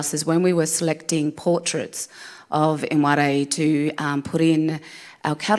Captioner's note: none